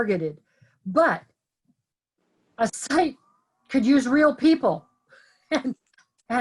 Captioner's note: laughs